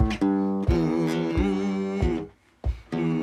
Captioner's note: continues humming